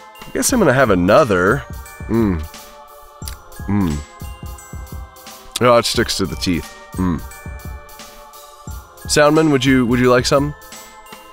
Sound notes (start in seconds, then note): 1.3 eating noises